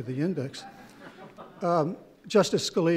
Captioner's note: chuckles